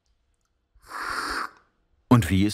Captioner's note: slurping